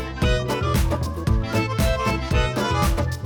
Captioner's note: scissors cut through the paper